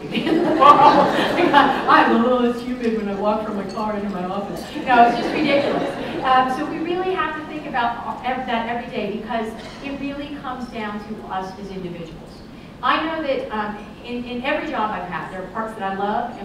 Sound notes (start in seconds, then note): 0.0 laughter; 4.7 laughter